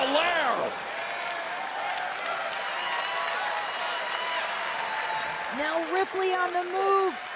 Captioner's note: crowd cheering